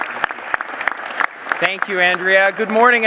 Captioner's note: applause